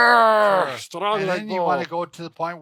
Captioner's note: grunting